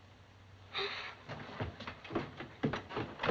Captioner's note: gasps